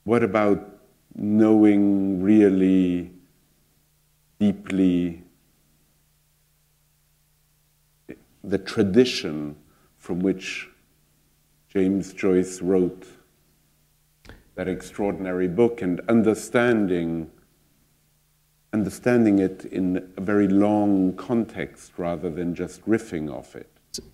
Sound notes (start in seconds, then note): none